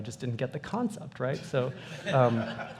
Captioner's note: laughter